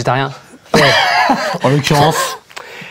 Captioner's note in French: rires